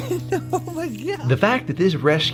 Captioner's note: laughs